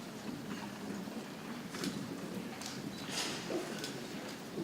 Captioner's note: people chattering softly